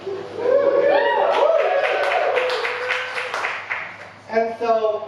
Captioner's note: audience cheering and clapping